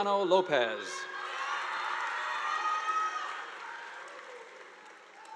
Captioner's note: audience applauding